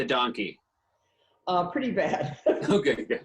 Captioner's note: laughs